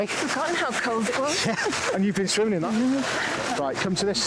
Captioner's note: chuckling